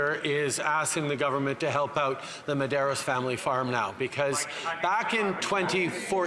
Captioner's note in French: voix de l'interprète